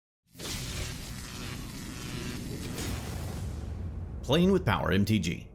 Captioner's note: electricity buzzing